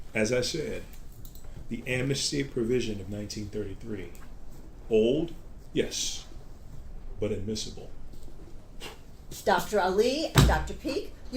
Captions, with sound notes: - As I said, the Amnesty Provision of 1933. Old, yes. But admissible. (Dr. Ali blows) - Dr. Ali and Dr. Peak?